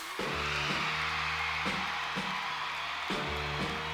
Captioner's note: cheers and applause